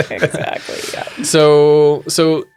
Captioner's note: laughing